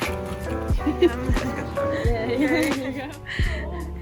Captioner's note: chuckles